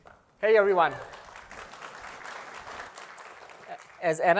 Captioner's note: applause